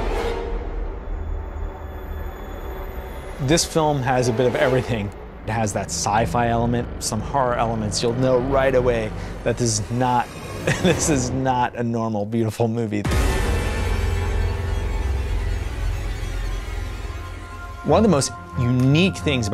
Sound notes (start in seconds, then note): 0.2 suspenseful strings; 10.6 chuckles; 13.0 intense music